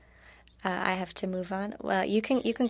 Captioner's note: speaking French